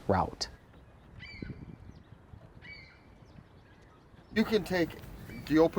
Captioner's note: bird calls